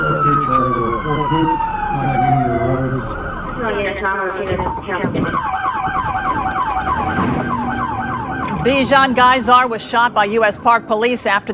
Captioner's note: sirens and gunshots